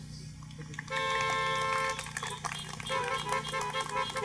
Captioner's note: applause